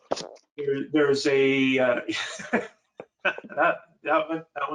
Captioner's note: laughing